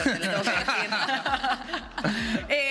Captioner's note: all laughs